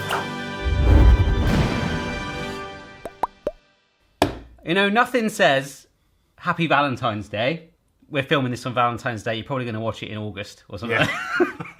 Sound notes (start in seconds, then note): 0.0 screams; 0.4 intro music; 4.1 slap; 11.6 laughs